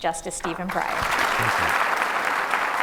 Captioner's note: applause